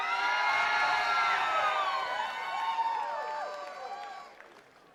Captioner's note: attendees cheering and clapping